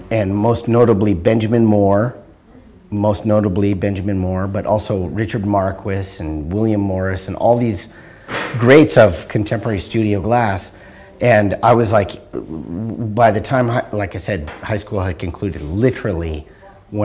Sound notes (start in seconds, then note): none